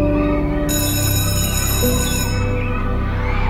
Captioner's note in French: Sonnerie; Gazouillis d'oiseaux, clameurs; Musique lente